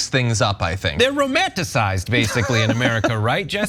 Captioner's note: laugh